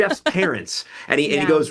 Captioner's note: host laughs